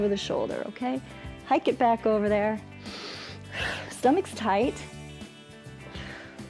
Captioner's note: inhales